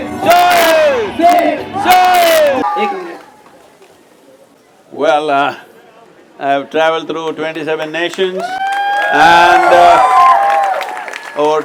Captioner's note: cheering/Applause